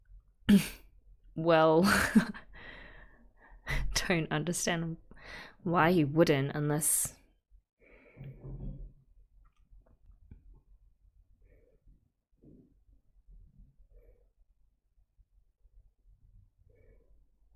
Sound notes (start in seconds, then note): 0.0 chuckles; 1.9 laughs